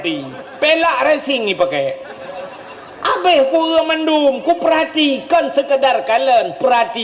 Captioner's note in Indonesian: tertawa